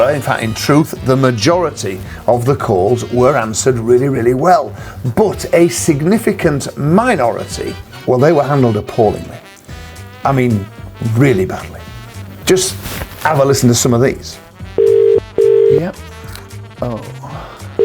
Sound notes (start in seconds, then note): 14.8 dial ring